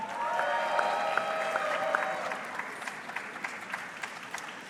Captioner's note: audience clapping